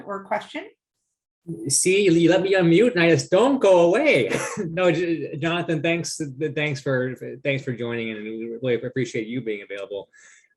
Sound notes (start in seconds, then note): 4.2 laughs